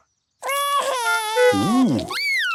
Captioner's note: cries